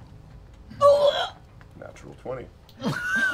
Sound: gasps; laughing

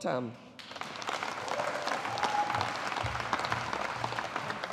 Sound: audience applauding

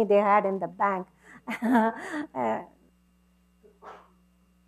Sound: chuckle

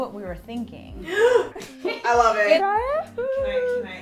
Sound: gasps

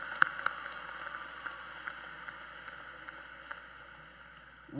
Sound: cheers and Applause

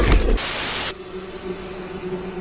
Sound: growling; TV static; string music

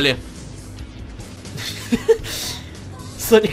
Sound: laugh

